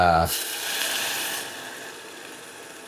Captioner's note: sizzling